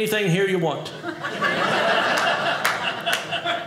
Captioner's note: audience laughing